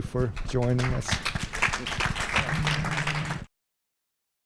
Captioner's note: applause